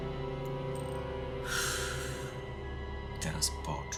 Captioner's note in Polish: głośny wydech